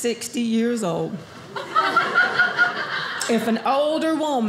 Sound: audience laughing

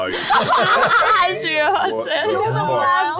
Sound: laughter

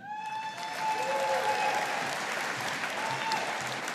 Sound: audience applauding

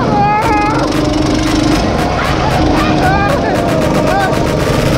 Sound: motors roaring

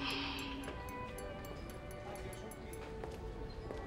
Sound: clinking

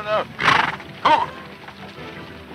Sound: horse snorts

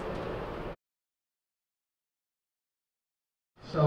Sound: silence

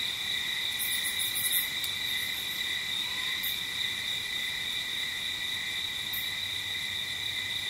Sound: light jungle ambience

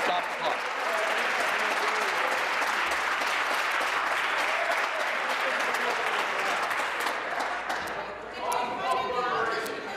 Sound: applause

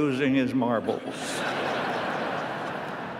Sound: laughter

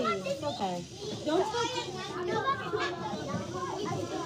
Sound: kids chattering

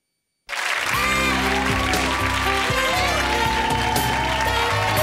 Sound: cheering and applause

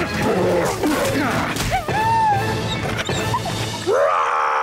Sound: whimpering; roaring

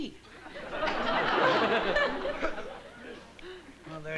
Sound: laughter

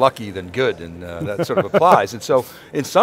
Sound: laughs

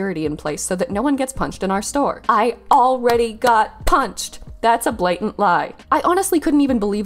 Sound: clap

